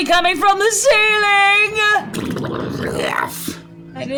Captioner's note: gurgling noises